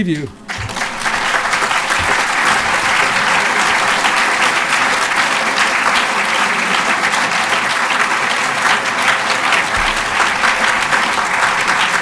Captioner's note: applause